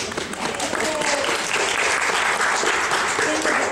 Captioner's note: clapping